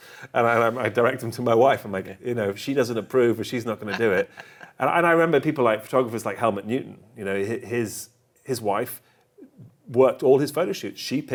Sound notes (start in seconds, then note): 3.6 laughs